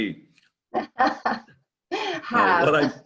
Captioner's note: laughs